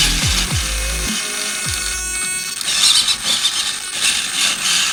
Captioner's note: electronic noises